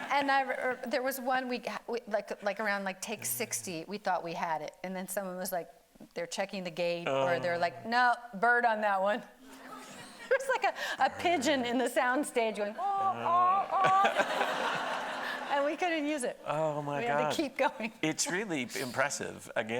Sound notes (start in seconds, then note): 10.5 audience laughing; 13.3 imitating pigeon; 13.6 everybody laughing